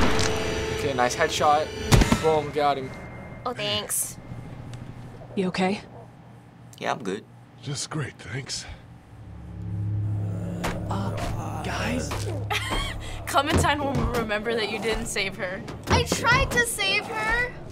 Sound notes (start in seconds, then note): 0.0 loud gunshot; 9.2 zombies moaning; 12.2 snickers